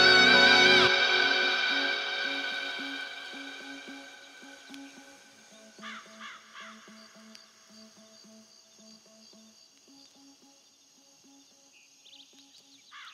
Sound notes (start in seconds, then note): 3.5 song ends; 7.4 birds chirping